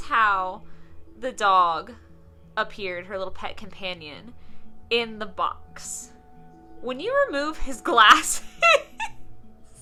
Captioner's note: laughing